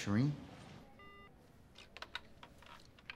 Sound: phone beeps

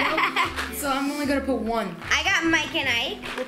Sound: laughs

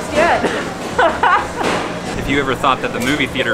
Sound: both laugh

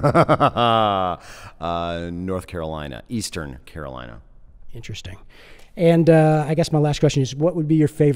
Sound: laughs

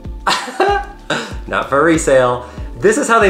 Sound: laughs

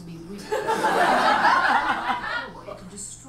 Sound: audience laughs

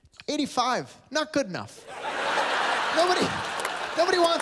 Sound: laughter

